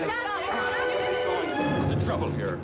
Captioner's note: shouting